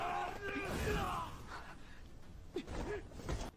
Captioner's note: groan